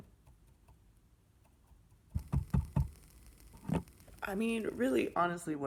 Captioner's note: sound of burning ash